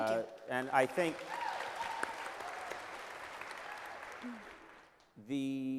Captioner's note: applause